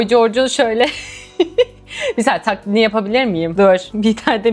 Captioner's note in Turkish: kahkaha